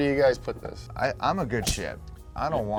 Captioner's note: punch thuds